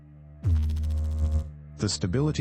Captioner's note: electrical noise